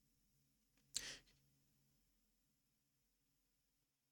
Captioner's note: sighs